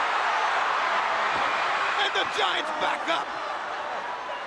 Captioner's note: crowd cheering